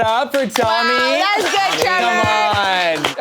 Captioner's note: people cheering